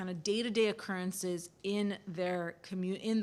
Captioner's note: none